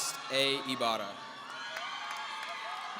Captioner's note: audience cheering